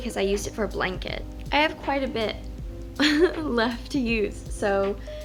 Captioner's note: chuckles